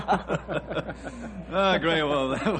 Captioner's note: laughs